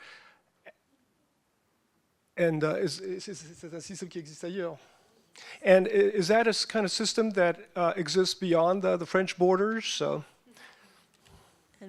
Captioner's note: French language